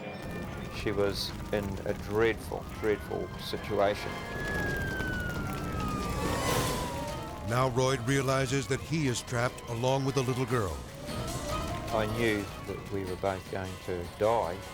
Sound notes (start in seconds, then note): 4.1 siren blaring; 10.6 tense music